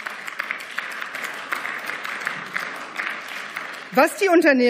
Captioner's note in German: Beifall